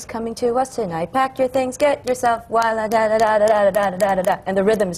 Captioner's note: sings; beats out the rhythm